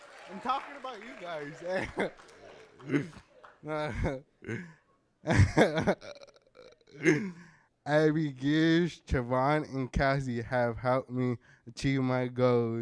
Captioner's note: applause